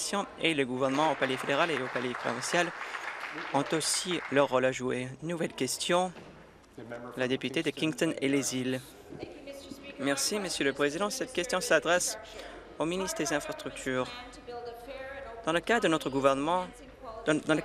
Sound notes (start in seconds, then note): 5.3 applause